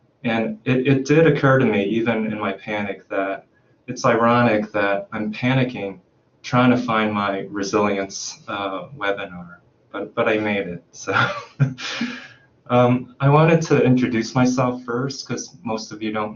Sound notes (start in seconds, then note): 10.9 chuckles